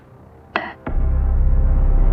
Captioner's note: gavel strikes